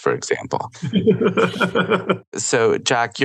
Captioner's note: laughter